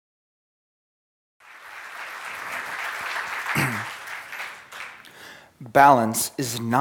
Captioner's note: applause